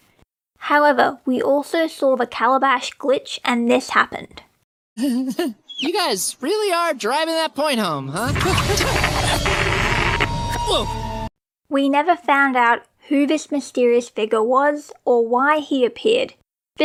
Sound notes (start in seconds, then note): 5.0 nervous chuckle; 8.2 broken radio frequency sounds; 8.6 fearful noises